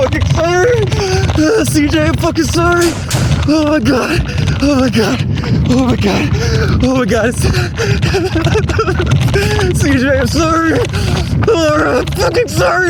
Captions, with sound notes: [heavy breathing] CJ, I'm fucking sorry. Oh my God! Oh my god, oh my god, oh my God. [sobbing] CJ, I'm sorry. Laura, I'm fucking sorry.